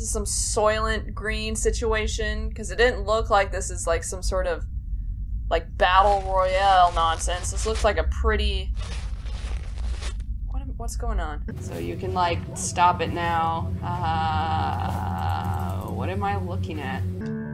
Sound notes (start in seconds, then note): 8.6 more rustling; 8.7 clothes rustling